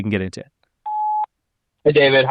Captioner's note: call beeps